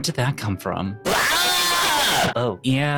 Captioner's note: screams